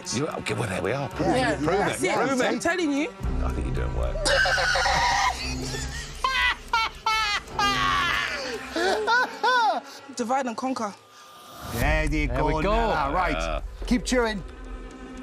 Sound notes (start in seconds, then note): 4.2 scream